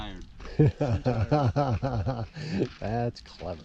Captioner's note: laughing